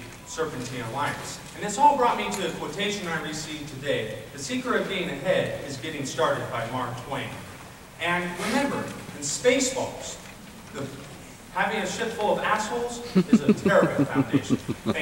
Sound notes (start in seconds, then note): 9.2 applause